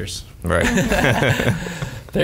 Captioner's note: laughs